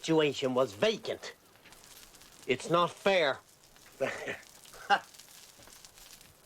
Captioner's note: Riéndose